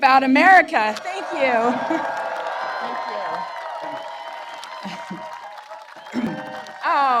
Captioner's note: applause